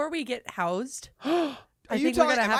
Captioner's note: gasps